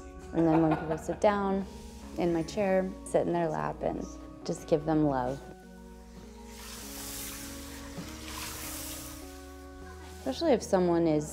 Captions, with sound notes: And then when people sit down in my chair sit in their lap and just give them love. [water spraying] Especially if someone